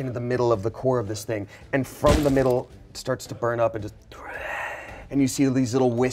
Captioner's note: groans